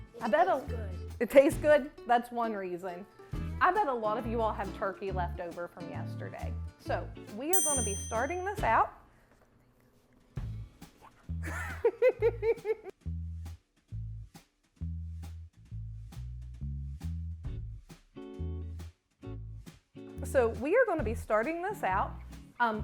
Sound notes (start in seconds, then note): 11.4 chuckling